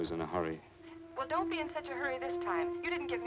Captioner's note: on telephone